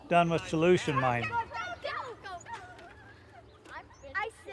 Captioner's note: kids yelling